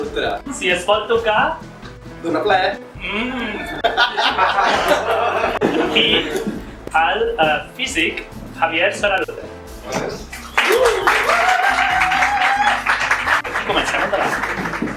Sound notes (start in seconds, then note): 3.5 laughs; 10.3 applause